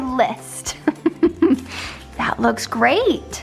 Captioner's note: laughing